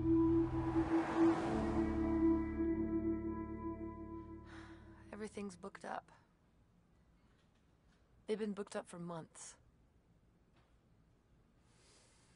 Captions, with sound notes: (car passes by) (sighs) Everything's booked up. They've been booked up for months.